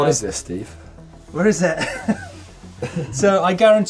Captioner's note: chuckles